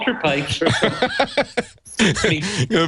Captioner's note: laughing